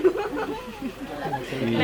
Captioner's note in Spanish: risa